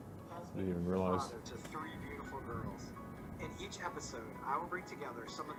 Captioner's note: indistinct chatter